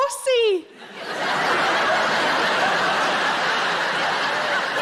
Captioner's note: audience laughing